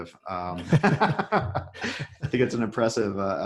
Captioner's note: laughing